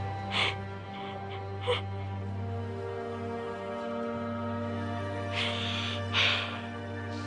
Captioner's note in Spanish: Sollozos